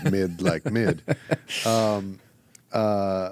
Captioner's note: laughs